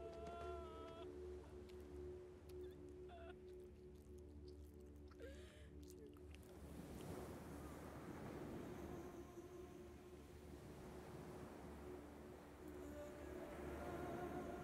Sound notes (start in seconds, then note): 6.6 waves crashing; 7.9 ethereal music